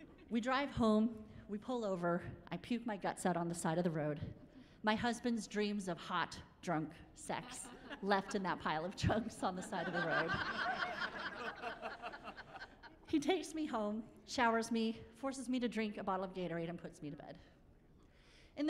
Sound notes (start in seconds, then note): 9.6 laughing